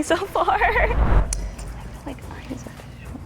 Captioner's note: chuckles; woosh